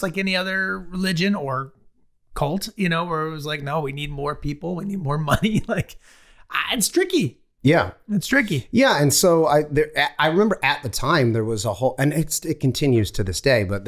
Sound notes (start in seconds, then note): 5.0 Charlie laughing